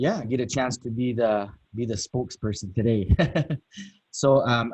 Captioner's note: laughs